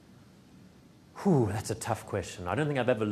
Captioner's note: sighs